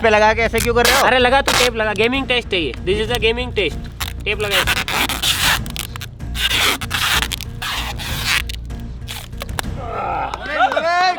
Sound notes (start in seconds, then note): 5.8 tape ripping noise